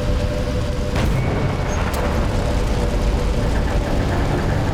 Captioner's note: machinery sputtering